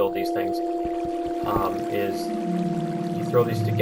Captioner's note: spooky "cave nearby" sound